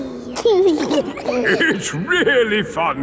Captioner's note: giggling